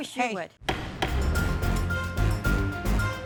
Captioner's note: gavel banging; dramatic music